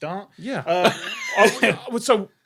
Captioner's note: crack up